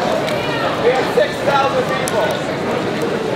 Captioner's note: voiceover